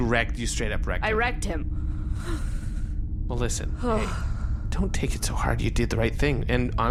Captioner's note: sighs deeply